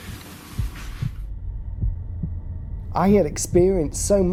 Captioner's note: heartbeats